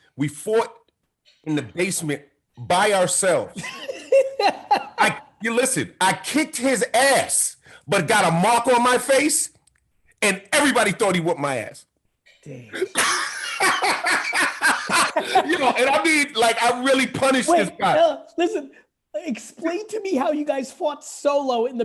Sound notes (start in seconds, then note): 3.5 Gary laughing; 12.8 laughing